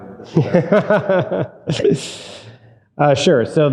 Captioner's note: chuckling